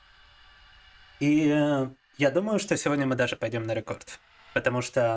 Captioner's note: speaking in foreign language